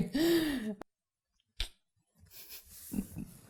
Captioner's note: clicking tongue